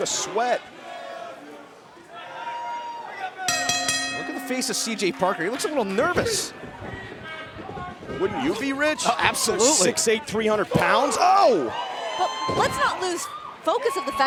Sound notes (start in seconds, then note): 3.5 bell ringing